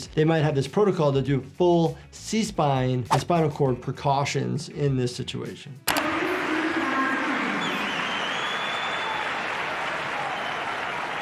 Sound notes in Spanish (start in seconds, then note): 6.0 público aclamando; 6.6 locutor habla en voz baja; 7.5 silbido fuerte